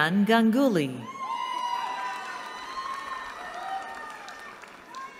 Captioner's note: cheering